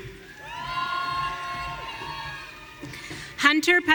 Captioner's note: audience cheering